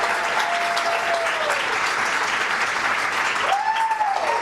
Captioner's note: cheers and applause continue